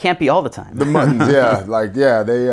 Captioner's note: laughing